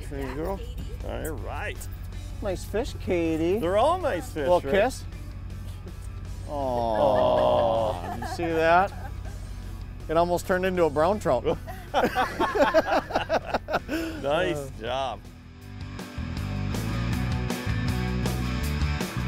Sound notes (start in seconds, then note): 11.6 laughter; 16.2 upbeat rock music